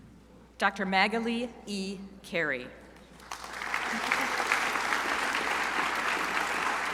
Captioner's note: crowd applauding